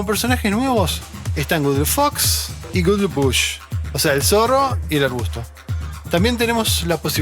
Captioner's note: in Spanish